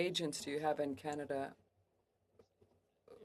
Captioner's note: speaking French